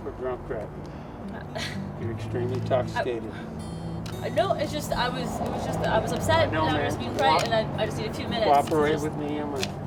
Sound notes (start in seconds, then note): 0.6 somber guitar music; 1.3 Isabel scoffs